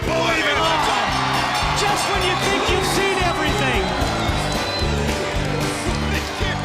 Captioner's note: bell ringing